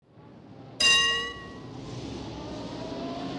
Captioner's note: traffic signal bell dings